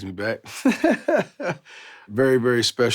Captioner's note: laughing